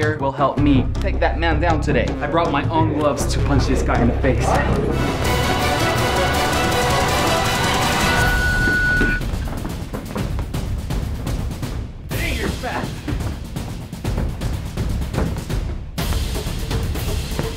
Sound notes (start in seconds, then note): 5.3 dramatic music; 8.3 round timer sounds